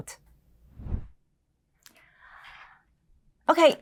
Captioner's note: window whooshes